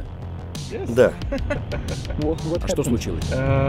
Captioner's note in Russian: смех